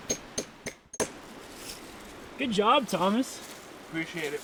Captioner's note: hammer tapping